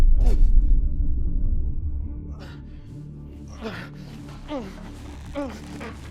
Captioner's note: mutters and groans